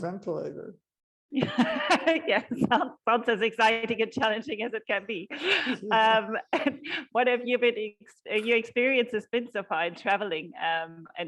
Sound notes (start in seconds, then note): 5.5 both are laughing